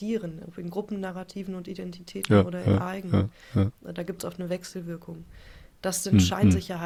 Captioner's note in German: räuspern